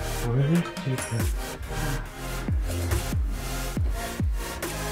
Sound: all mumbling

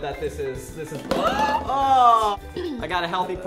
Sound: gasping

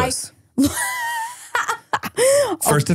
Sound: laughing

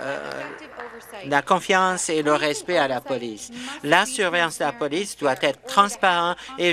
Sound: applause

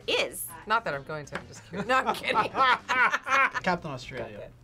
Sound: both laugh

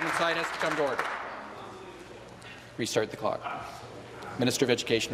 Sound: applause

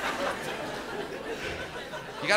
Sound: laughter

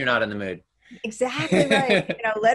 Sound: laughs

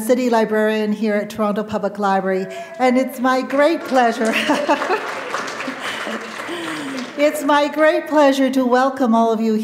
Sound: chuckle

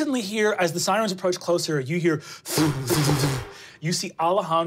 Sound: blowing

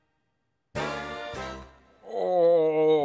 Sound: sighing

